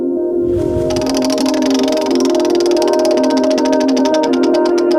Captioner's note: wheel clicking